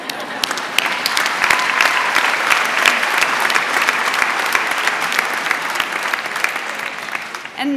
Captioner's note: applause